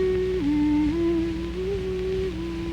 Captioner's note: none